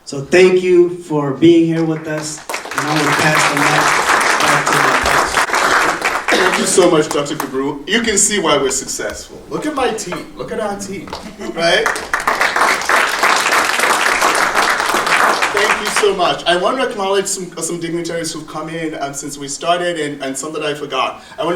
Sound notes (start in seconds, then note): 5.1 audience applauding; 12.1 audience applauding